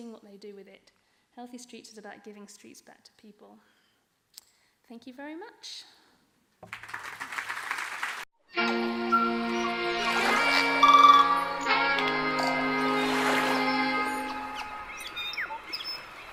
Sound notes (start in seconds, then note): 6.6 audience applauding; 13.5 folksy music